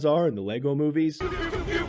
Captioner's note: PEW PEW PEW sounds